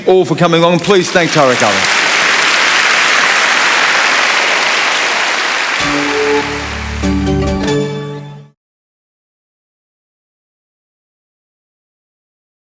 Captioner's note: applause